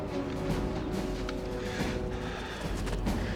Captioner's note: panting